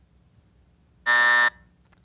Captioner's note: buzzer sounds